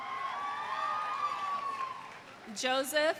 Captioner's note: audience cheering; audience applauds